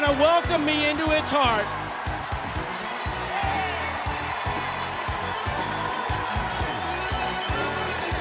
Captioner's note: cheers and applause